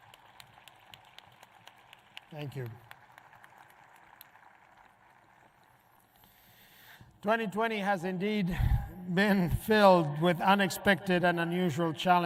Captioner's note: appuse